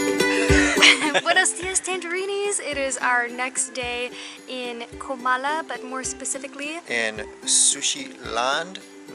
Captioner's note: laughter